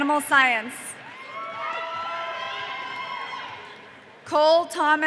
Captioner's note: audience cheering